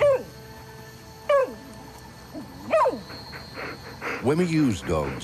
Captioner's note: yelping